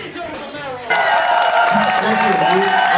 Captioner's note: applause